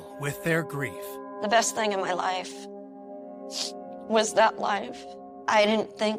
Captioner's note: sniffling